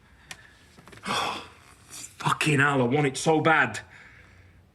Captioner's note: he huffs